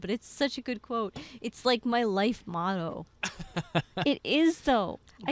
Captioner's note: laughing